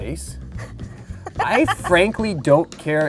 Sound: laughter

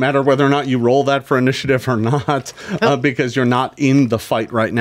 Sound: laughs

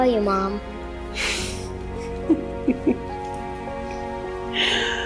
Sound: Mary chuckling

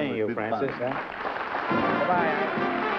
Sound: applause

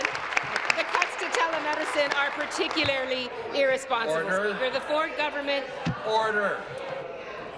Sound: applause

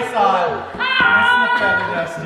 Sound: yelling

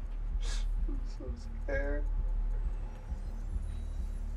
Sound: sobs

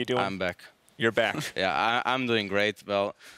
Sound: giggles

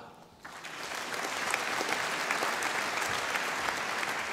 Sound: audience applauding

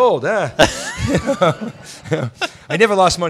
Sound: laughs

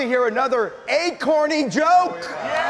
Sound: audience cheering

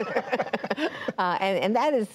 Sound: laughter

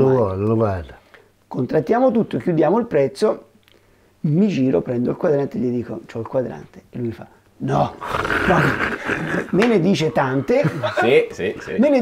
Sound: laughts

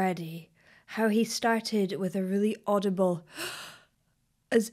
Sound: inhaling

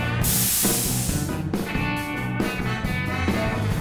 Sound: zizzling noices

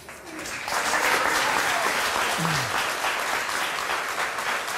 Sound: audience applauds

